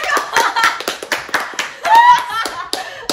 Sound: claps of joy; laughs; screams

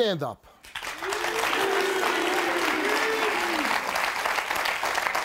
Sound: audience applauding

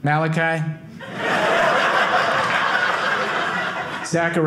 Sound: audience laughing

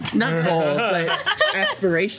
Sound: laughs

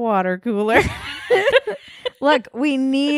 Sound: laughing

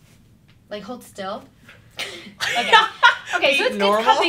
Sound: both laugh

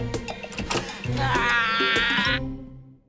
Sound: groaning

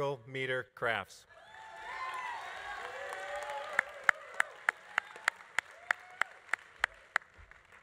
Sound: audience cheering; audience applauding

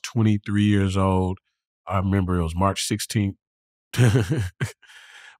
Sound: laughter

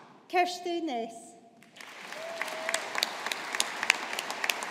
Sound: audience applauding

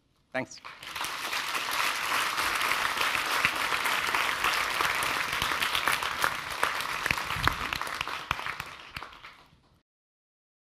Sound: applause

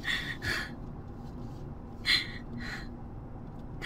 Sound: sobbing

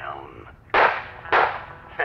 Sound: gunshots

